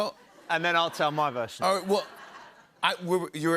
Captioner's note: laughter